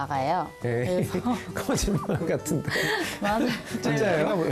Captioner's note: laughter